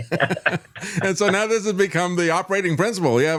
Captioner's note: laughing